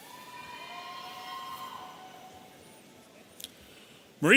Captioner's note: audience cheering